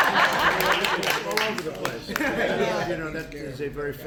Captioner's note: laughter